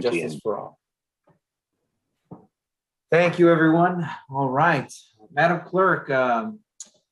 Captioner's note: reciting the pledge of allegiance